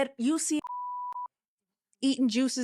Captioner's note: beep